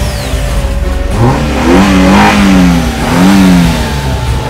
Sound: car engine starting; engine revving

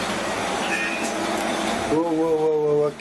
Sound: beeping

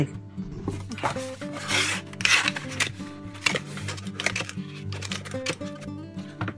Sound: calm music; paper rustling

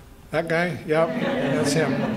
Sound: laughter

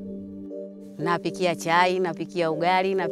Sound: non-english speech

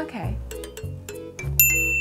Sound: beep sounds

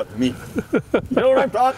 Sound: laughing

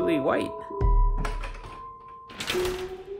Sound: closet door loudly hits the wall

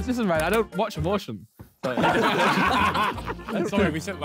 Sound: men laughing

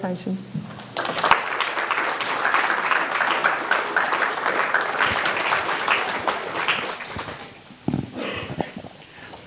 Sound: applause

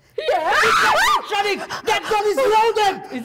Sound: Zina and Professor loudly scream

